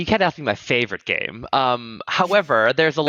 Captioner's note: laughs